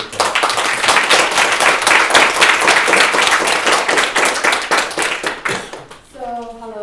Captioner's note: clap